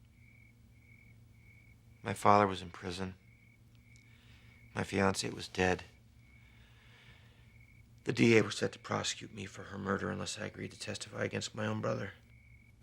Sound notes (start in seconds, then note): none